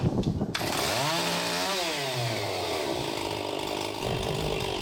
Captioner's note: engine rumbling; saw buzzing